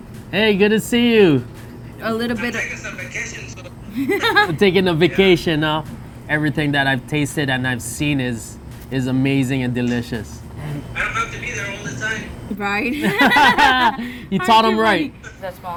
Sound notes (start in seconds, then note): 3.8 laughter; 12.9 laughter